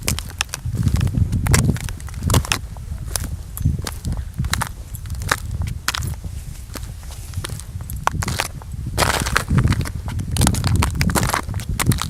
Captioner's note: wind blowing